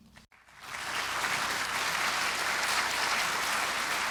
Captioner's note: audience applauding